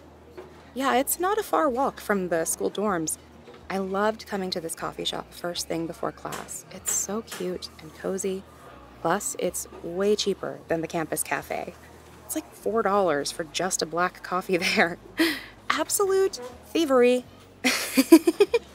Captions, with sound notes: Yeah, it’s not a far walk from the school dorms. I loved coming to this coffee shop first thing before class, it’s so cute and cozy. Plus, it’s way cheaper than the campus cafe. It’s like $4 for just a black coffee there! (joking tone) Absolute thievery! (giggles)